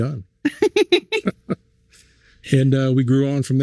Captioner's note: laughing